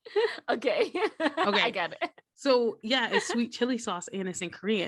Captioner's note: giggles